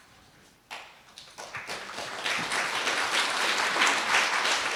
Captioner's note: audience applauding